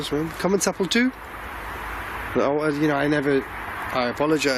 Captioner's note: speaking in foreign language